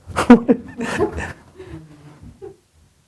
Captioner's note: laughs